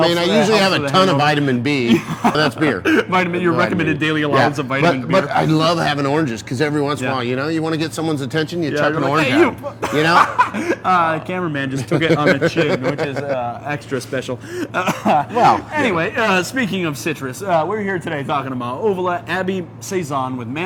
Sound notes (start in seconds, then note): 0.0 laughs; 1.8 laughs; 8.9 laughs; 14.0 both laughing